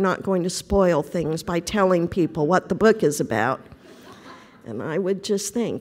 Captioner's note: laughter